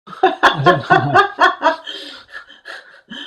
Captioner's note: laughter